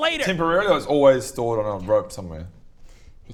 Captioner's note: whispered